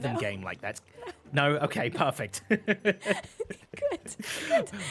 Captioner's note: laughs